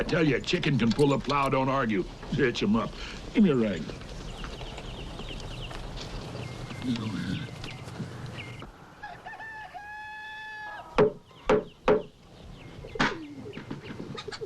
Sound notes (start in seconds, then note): 7.0 Hezekiah muttering; 8.9 rooster crowing; 11.8 wood knocking